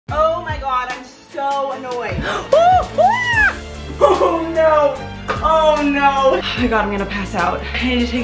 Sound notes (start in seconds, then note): 2.2 yelling